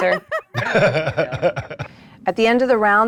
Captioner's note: group laughs